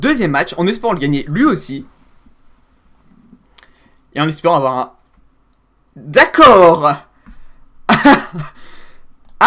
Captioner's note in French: rit bêtement